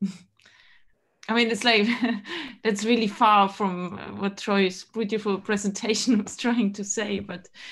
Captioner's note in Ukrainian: хихикає